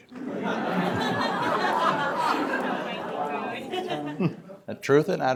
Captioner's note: laughter